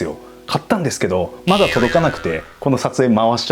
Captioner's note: crying